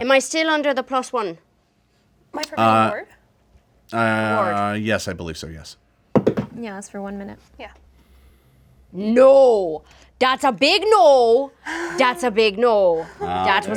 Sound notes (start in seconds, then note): 6.1 dice thud